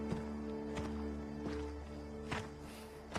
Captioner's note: footsteps approaching